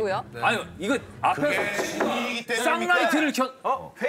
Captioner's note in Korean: 똑똑똑